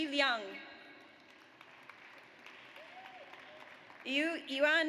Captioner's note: audience applauds